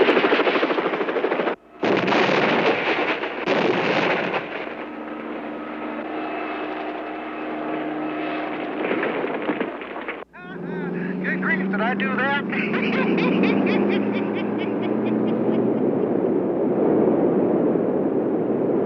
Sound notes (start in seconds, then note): 10.2 laughs; 14.1 truckers laugh